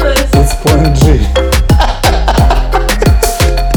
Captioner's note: laughing